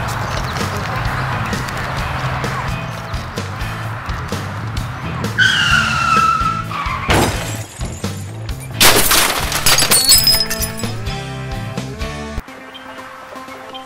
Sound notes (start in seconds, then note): 5.3 car screech; 8.6 shattered glass hits road